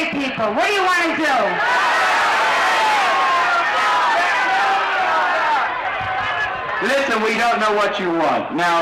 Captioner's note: crowd yells